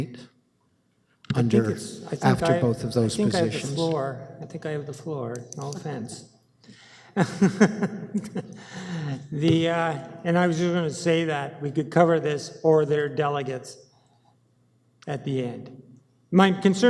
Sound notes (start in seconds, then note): 7.1 chuckles